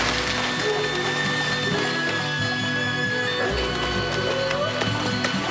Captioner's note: dog howling and barking